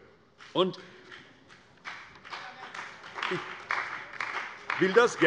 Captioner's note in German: Beifall bei der CDU und dem BÜNDNIS 90/DIE GRÜNEN